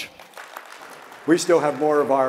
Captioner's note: audience clapping